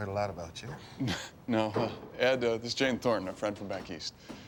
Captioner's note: chuckles